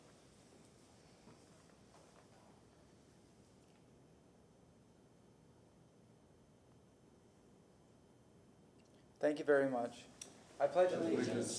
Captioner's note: moment of silence